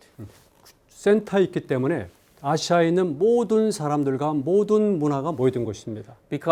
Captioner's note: speaking in Korean